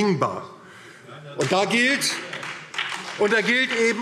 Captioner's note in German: Beifall